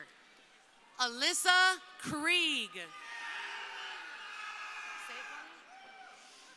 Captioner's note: crowd cheering